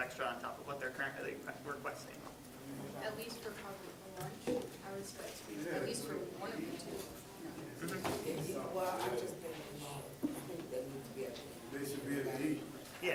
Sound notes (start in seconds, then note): 8.1 general chatter